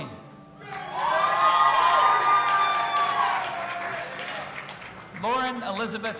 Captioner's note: audience applauding and cheering